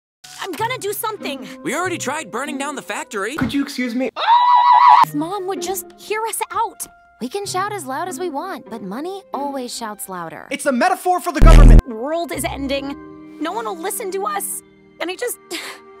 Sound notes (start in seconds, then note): 4.5 distorted screaming